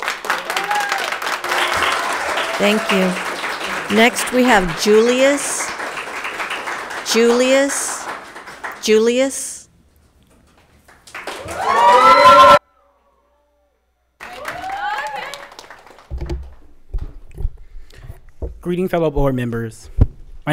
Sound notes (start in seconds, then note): 0.1 audience applauds; 10.8 audience applauds; 11.1 people cheer